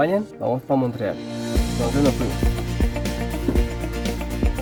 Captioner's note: in Spanish